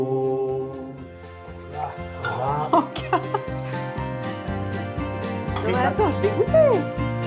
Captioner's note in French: chant